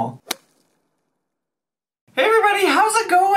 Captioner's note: logo snaps